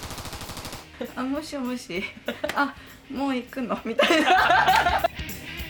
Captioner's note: laughs